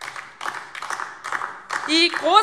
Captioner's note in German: Beifall DIE LINKE